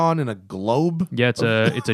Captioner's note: laughter